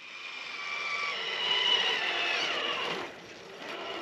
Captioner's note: vroom!